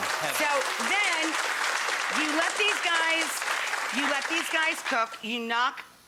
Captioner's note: audience clapping; audience still clapping